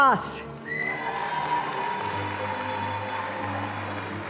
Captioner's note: audience applauding